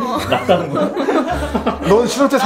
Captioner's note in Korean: 웃음